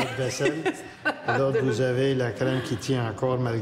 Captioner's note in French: rires